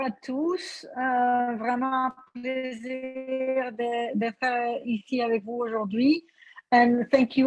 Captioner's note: speaks french